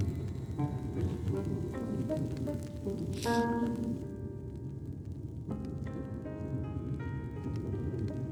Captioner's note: sniffles